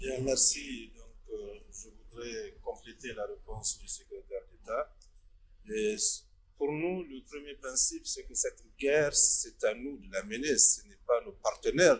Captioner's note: in French